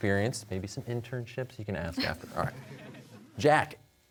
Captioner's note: audience chuckles